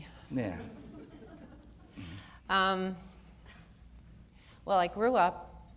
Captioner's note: audience laughter